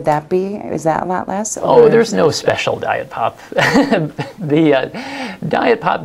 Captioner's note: laughs